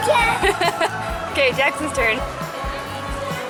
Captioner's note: laughs